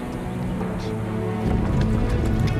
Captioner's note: wagon moving